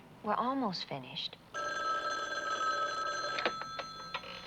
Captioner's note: phone rings